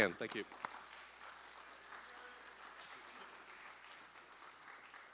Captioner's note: applause